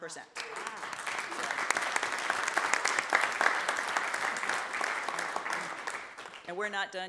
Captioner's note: audience applauds